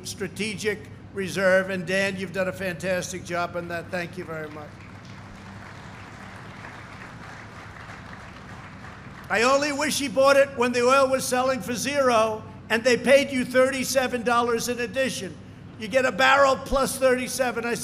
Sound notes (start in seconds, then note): 8.4 applause